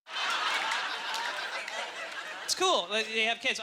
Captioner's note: cheers and applause; audience laughter